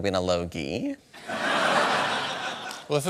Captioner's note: laughter